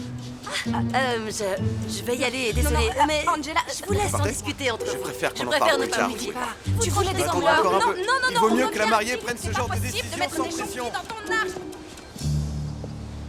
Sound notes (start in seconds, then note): 4.8 overlapping chatter; 10.0 overlapping chatter